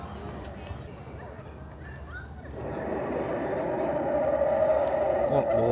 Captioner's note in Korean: 갑분 공룡 울음소리